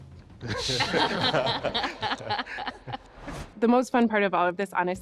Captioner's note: laughing